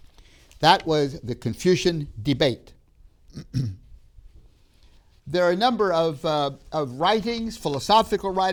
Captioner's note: clears throat